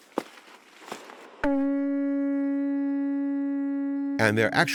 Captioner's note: shell call blaring